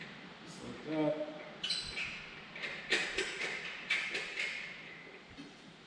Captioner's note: bolt clanking